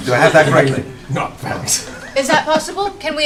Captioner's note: laughter